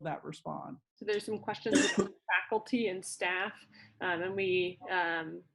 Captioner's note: cough